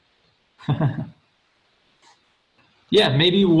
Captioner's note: laughs